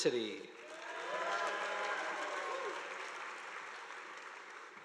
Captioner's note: audience applauding